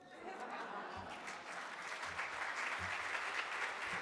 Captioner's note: audience applauds